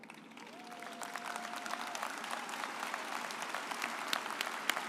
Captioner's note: audience applauds